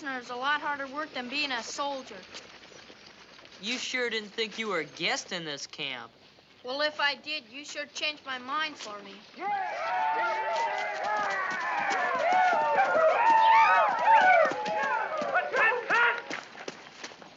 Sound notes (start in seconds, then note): 9.3 soldiers cheering